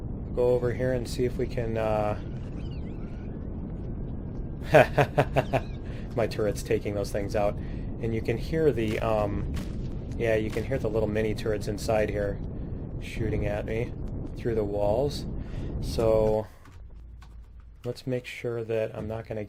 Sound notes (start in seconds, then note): 4.6 laughs